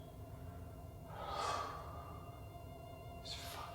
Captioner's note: sighs